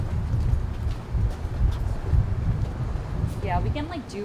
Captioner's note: susurro del viento